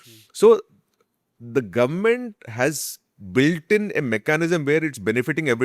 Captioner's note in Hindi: नाक से की जाने वाली आवाज़